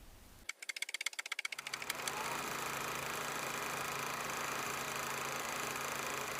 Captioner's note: typewriter keys clacking; projector whirring